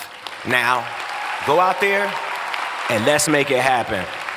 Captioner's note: cheering